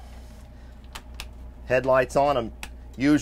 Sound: switches clicking; switch clicking

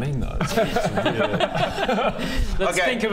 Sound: pity laughs

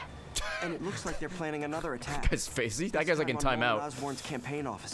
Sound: laughs

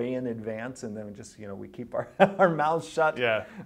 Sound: laughs

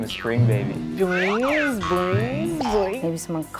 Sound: spring bouncing

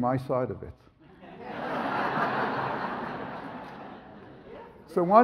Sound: audience laughs

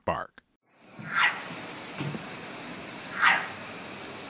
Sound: animal barking

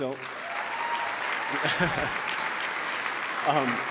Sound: applause

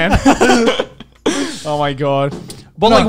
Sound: men laughing

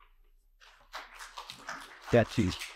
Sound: audience applauding

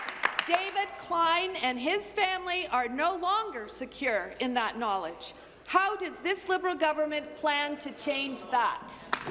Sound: applause

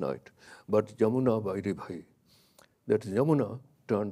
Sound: speaks in a foreign language

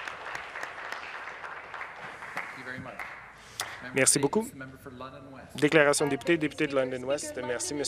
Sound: some Applause

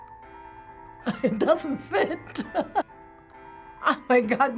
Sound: chuckles

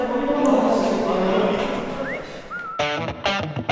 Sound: breathing hard

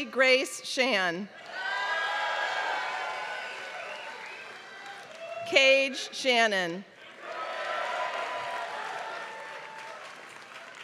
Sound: applause

